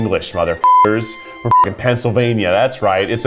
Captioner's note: beep